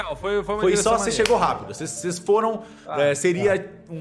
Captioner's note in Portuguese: none